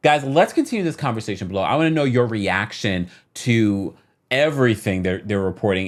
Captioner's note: none